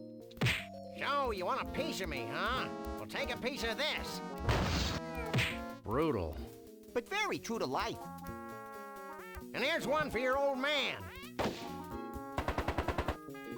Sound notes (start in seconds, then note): 0.4 punch sound; 4.5 crashing sound; 12.3 gunfire